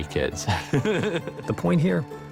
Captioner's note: laughs